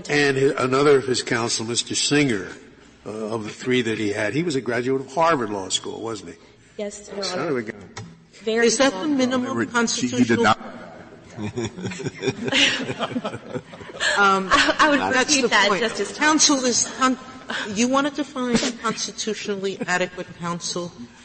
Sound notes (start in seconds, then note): 9.1 sotto voce; 11.2 laughter